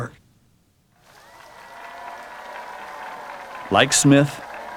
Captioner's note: cheering, Applause